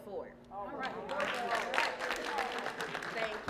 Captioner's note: applause